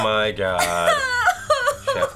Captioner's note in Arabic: ينتحب